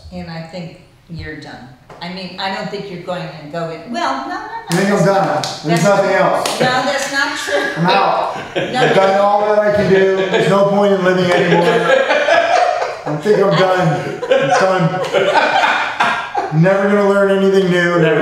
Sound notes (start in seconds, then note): 7.3 laughs; 11.9 laughs